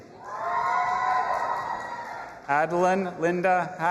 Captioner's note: audience applauding and cheering